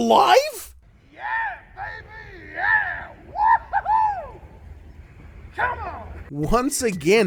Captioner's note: celebratory Kiwi noises